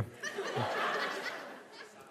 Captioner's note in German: Lachen